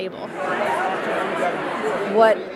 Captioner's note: crowd noise